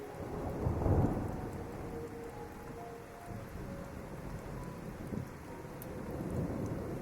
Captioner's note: heavy rain and thunder